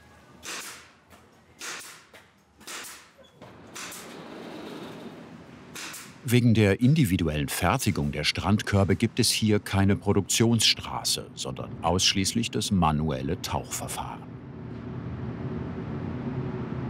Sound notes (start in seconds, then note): 15.0 constant drone